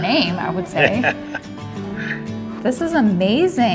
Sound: laughs

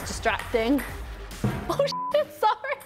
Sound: camera banging; ball bouncing; beep

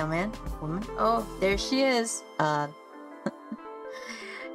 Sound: chuckles

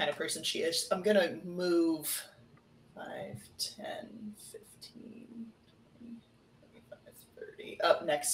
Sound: counts quietly

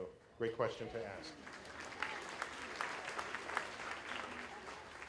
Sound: applause

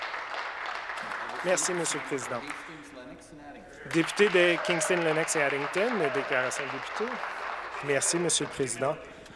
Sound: some Applause

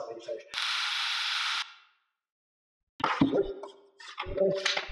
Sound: drill buzzing

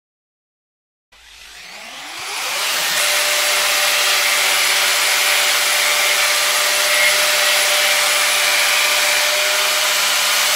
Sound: sound of electrical tool

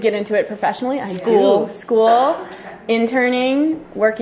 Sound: voiceover

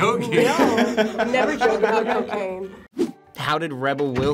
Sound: both laugh

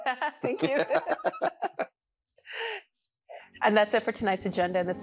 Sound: laughter

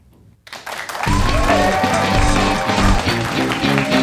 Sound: applause

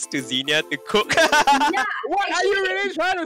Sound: laughs

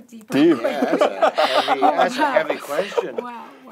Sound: laughs

